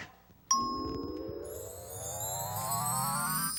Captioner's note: bell rings